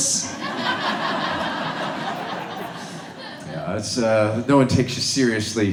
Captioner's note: audience laughs